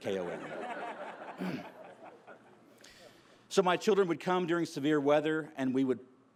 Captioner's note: laughter